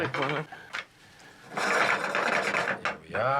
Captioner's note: clattering